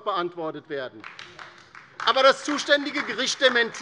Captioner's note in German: Beifall DIE LINKE